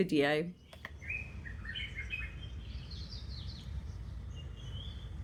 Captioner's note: birdsong